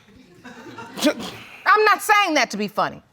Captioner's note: audience chuckling